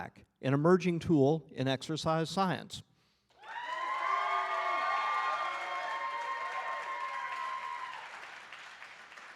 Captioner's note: applause